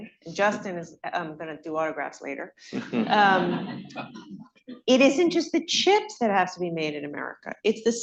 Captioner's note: laughter